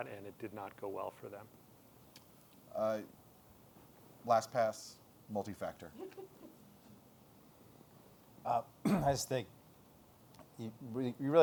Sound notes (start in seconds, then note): 5.9 laughter